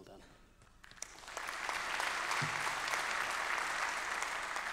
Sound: applause

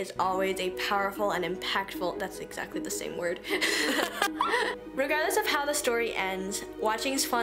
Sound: both laugh

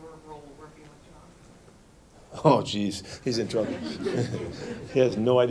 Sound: laughter

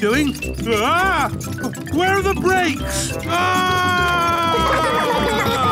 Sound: scream

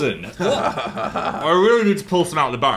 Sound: Dan chuckles

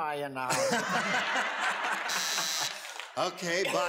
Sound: audience laughs; buzzes

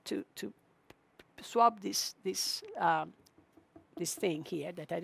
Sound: taps countertop

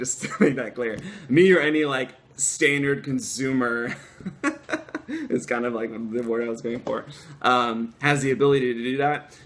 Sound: laughter

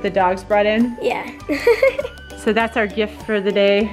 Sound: laughs

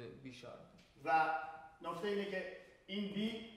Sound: speaking in farsi

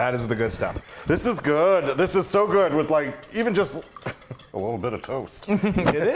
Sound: laugh

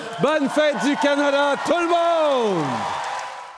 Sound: cheers & applause

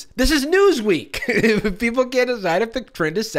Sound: laughs

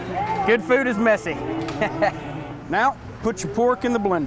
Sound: laughs

